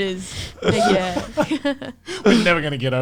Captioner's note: laughs